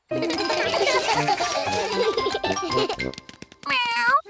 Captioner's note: all giggle